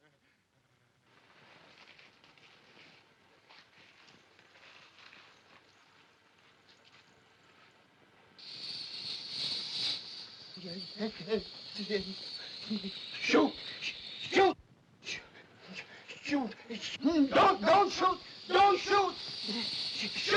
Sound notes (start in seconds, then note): 8.4 cobra hisses; 10.4 Barber stammering; 10.4 cobra hisses; 15.9 stammering; 16.7 cobra hissing